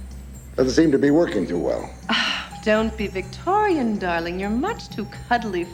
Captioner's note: huffs; sighs